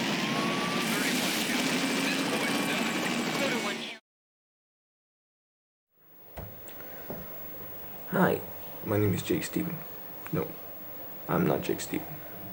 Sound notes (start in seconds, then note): 2.6 car honking